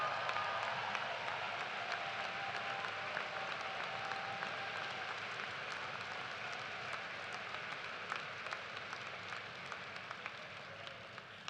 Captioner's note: cheers and applause